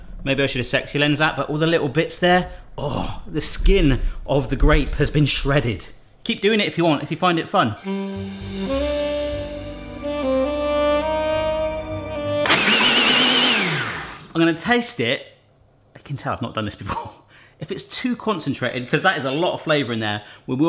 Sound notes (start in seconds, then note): 7.8 sultry music; 12.4 blender whirs